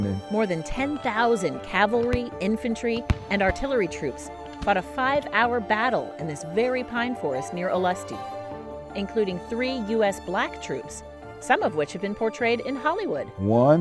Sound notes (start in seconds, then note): 2.9 gunfire popping